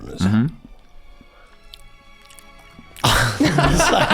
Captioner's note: Glenn chewing; gang laughing